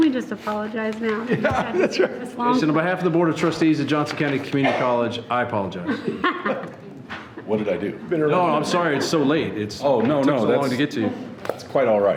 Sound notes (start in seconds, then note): 5.7 board members laughing